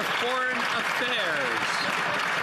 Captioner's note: some Applause